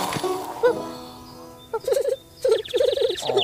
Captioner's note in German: kichert